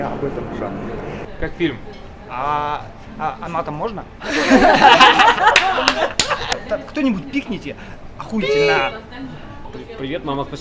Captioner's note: laughs